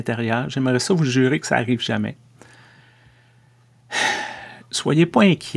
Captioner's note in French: soupir